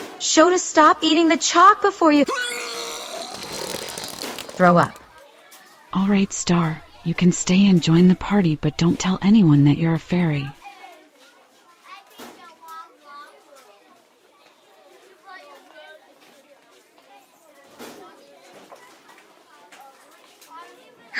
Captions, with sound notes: Shota. stop eating the chalk before you- (HURL!) Throw up. Alright Star, you can stay and join the party but don't tell anyone that you're a fairy.